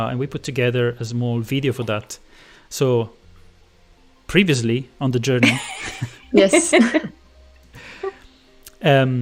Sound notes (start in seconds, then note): 5.4 laughter